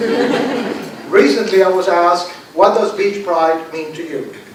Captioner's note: laughter